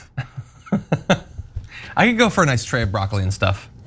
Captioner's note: laugh